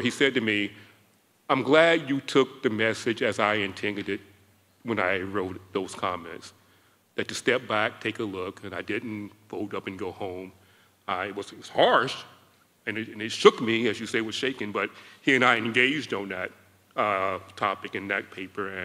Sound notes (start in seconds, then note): none